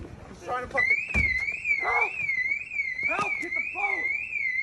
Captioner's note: car alarm ringing